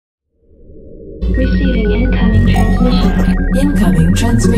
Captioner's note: voiceover